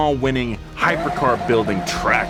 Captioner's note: tires screech